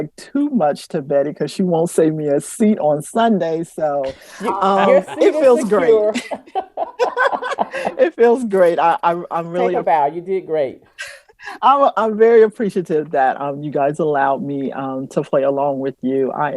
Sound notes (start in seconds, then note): 4.1 laughter